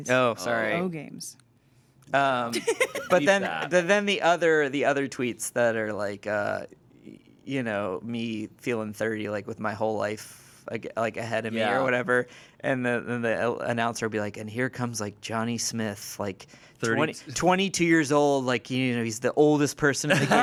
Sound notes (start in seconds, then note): 2.5 laughs